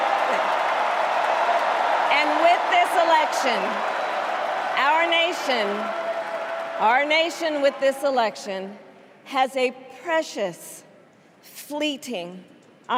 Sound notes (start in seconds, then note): 4.2 cheers and applause